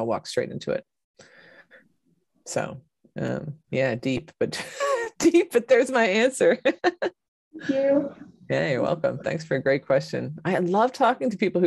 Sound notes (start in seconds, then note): 6.7 laughs